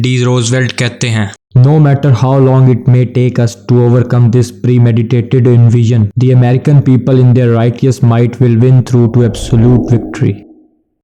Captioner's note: low base sound effect